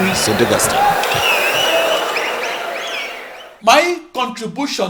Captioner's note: wild applause and cheering for 22 seconds